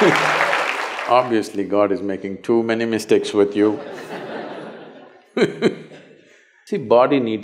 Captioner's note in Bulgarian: смях/ръкопляскане; смях